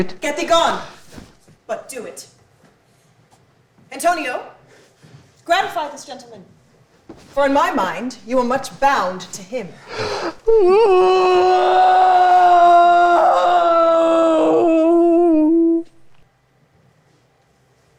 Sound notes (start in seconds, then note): 10.0 Bassanio deeply sobs